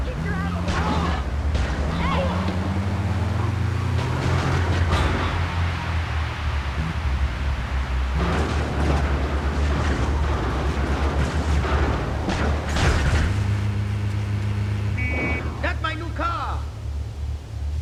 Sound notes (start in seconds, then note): 6.0 buzzer